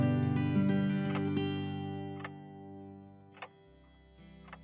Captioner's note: clock continues ticking; gentle music continues